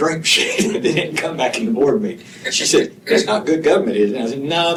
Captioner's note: laughter